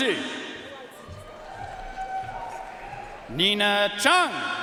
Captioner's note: audience cheering and applauding